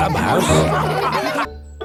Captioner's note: all laughing